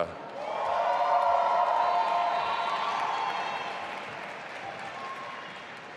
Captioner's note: audience applauding and cheering